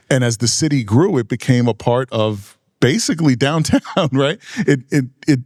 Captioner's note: laughing